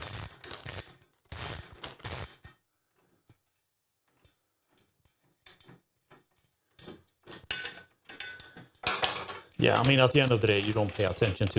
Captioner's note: metal Clanking